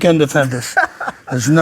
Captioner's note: laughs